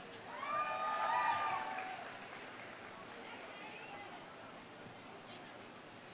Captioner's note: audience cheering; audience applauding